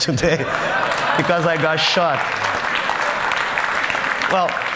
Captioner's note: Laughter; Applause